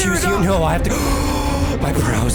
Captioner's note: gasp